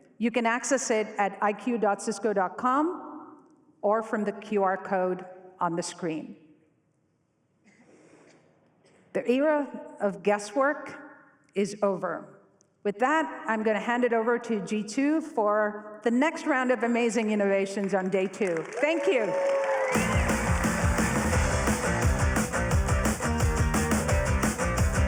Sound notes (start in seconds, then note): 18.6 cheering; 21.5 upbeat music